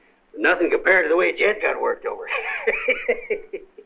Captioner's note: laughs